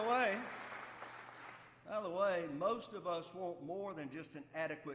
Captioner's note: applause